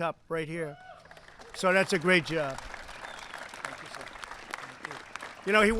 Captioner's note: applause